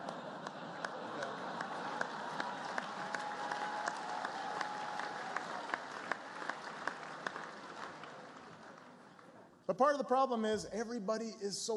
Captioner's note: laughter, applause